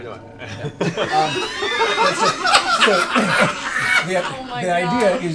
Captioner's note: laughter